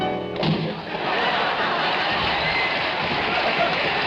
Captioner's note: audience laughing